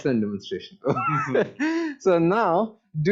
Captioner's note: laughter